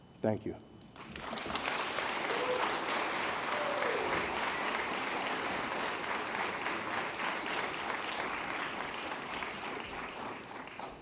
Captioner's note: applause